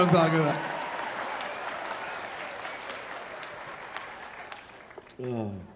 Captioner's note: audience laughing and applauding